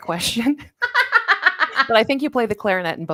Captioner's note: laughs